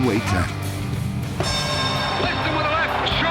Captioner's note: bell ringing